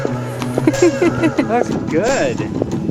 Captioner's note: laughs